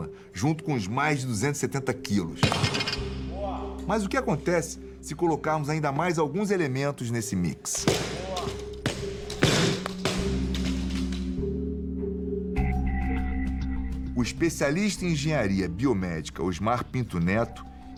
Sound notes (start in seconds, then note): 2.4 dumbbell hitting the floor; 7.8 dumbbells falling repeatedly